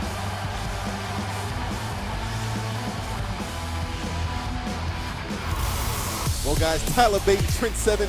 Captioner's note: cheers and applause